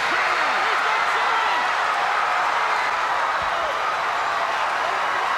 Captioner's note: crowd roaring